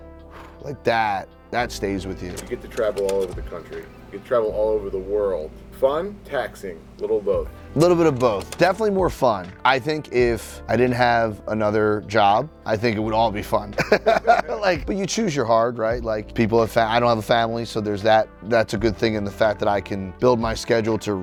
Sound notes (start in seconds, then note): 13.7 laughs